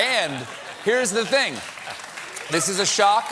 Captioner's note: laughter